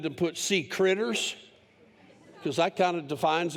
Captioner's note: laughter